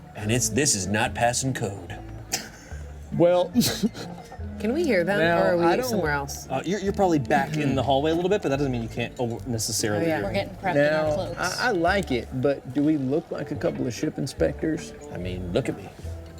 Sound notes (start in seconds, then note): 3.4 laughs